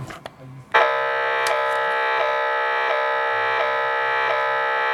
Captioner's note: machine noises